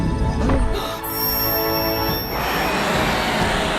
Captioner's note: gasps